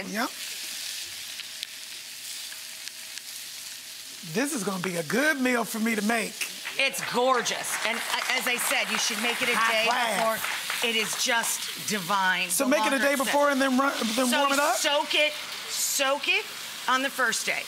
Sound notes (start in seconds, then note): 0.9 food sizzling; 10.1 audience applauds